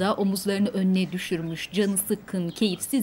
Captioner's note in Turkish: Kuş sesi